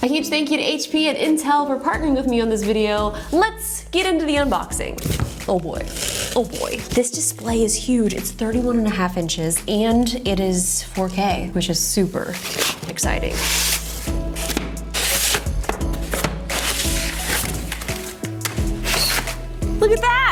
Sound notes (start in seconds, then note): 13.5 mellow music; 15.6 boxes thump on table; 16.7 polystyrene scraps on cardboard